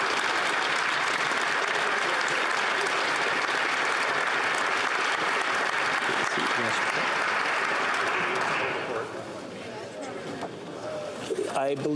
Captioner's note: applause